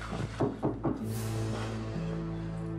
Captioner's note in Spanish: toques en la puerta